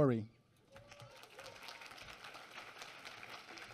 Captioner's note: applause